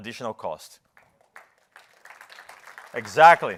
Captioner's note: applause